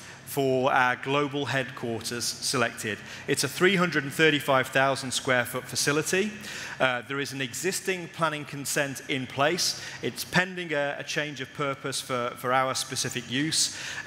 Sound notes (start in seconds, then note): none